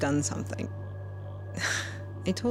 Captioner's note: sighs